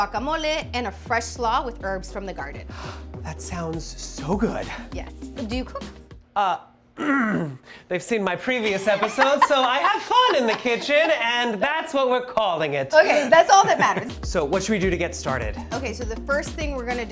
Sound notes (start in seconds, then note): 3.0 gasps; 7.0 throat clears; 8.6 Marcela laughs